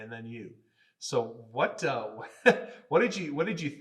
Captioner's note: laughing